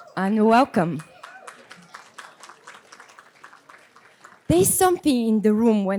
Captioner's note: audience applause